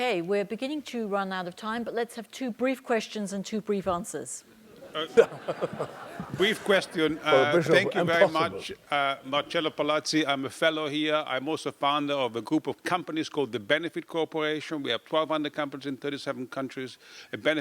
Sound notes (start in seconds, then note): 4.7 laugh